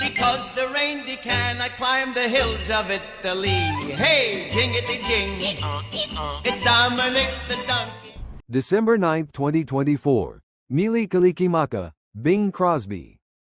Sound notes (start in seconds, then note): 5.3 donkey braying